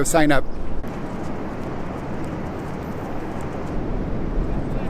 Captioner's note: air whooshing